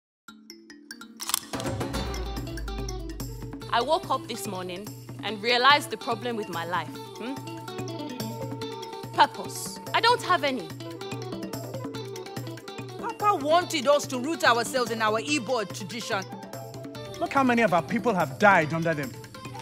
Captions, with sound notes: (camera shutters) (upbeat music) - I woke up this morning and realized the problem with my life, hmm. Purpose... I don't have any. Papa wanted us to root ourselves in our Igbo tradition. - Look how many of our people have died under them?